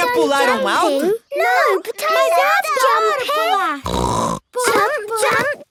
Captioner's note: snort